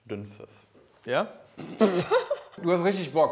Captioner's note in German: Prustendes Lachen